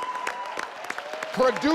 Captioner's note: audience cheers